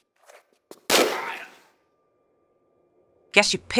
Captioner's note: bam